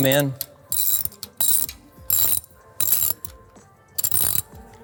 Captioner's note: ratchet clicking